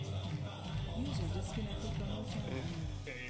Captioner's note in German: Computerstimme